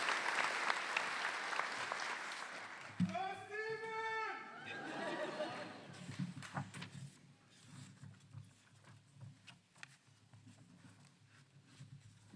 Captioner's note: cheers and Applause